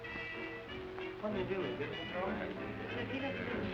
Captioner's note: indistinct chatter